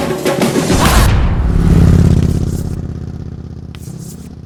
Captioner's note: engine roaring